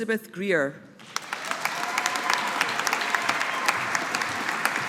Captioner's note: audience applauding